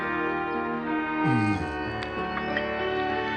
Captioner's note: Mole sighs